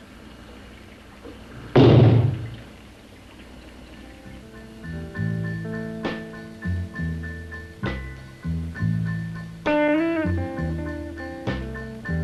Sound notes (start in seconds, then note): 1.7 loud knock; 4.0 swanky jazz music